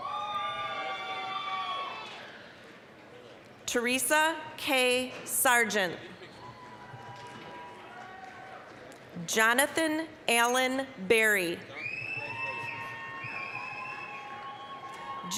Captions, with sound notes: (applause, cheering) Teresa Kay Sargent. (applause, cheering) Jonathan Alan Berry. (applause, cheering)